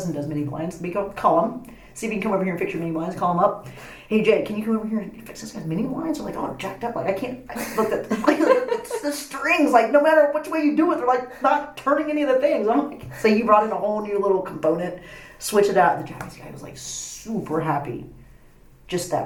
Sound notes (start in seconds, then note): 3.7 whispers; 7.6 laughs